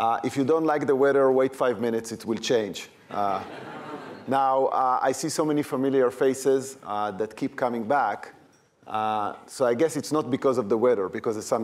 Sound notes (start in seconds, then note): 3.2 chuckling